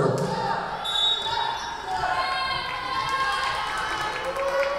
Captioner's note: whistle blowing